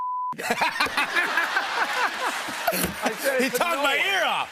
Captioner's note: laughter and applause